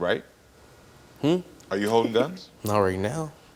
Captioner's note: laughing